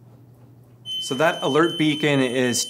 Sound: siren

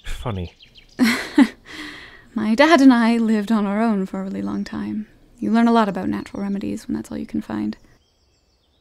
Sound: dry laughter

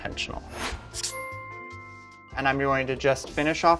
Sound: whooshing

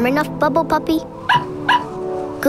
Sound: barks

